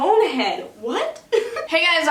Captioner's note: laughs